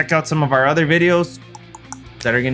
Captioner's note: tongue clicks